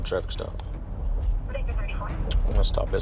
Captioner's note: radio noises